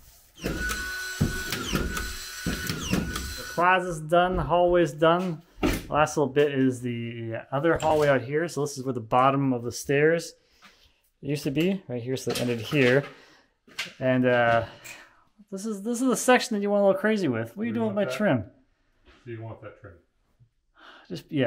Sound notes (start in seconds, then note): 0.4 nail gun whirring